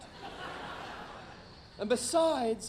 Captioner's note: audience laughing